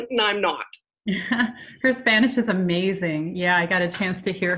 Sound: laughs

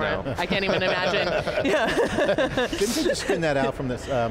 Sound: laughing

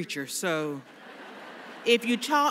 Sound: laughter

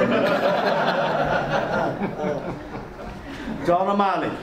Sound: audience laughs

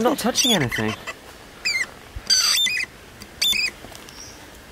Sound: squeaking

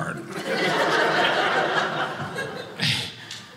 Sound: audience laughing

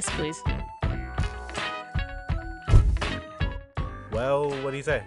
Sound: footsteps ending in a big THUMP

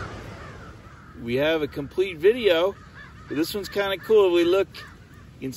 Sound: crows cawing

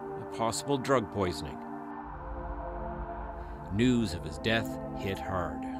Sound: sirens

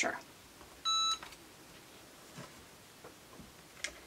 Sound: press beeps

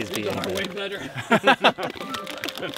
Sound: all laughing

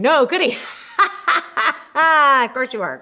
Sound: laughs

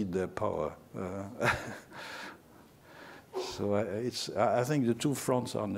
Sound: laughter

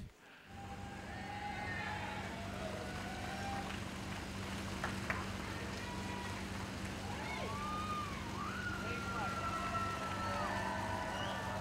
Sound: cheers

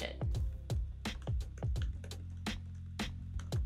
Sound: typing sounds

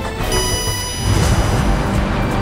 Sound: beeps; dramatic music

